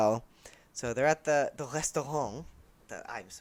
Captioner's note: bad French pronunciation